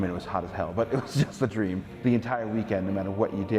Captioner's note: laughs